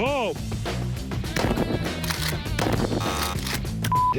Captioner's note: buzzer; gun shot